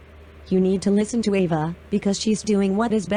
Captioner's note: none